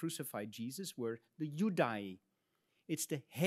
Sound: speaks in Latin

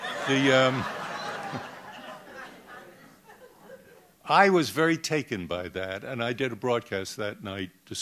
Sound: laughter

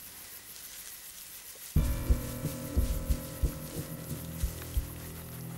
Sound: crickets chirping

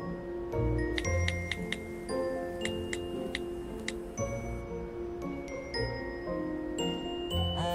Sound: mysterious music; phone clicking

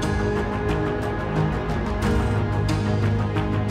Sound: none

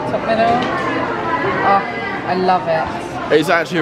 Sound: people chattering

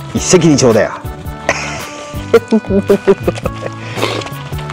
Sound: laughs

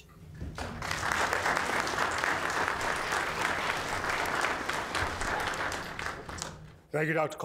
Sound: applause

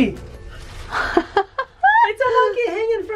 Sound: laughs

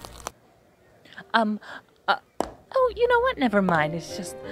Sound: stammering

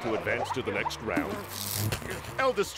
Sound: electronic crackle

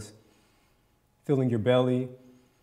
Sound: inhales

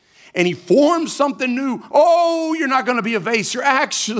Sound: none

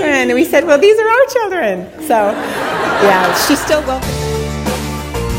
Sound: audience laughter

